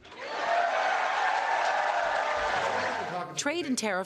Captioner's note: cheering